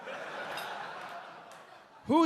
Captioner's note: audience laughing